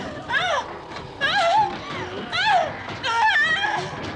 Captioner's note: whimpering